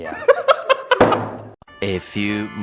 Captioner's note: man laughs